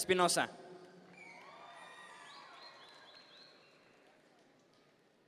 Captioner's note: audience members cheer